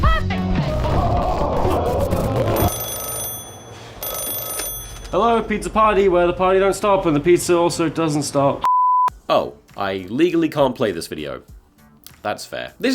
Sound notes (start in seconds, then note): 2.6 phone Rings